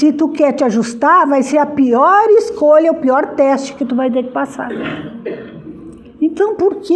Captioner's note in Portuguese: limpando a garganta